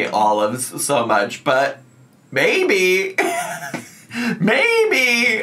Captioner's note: laughs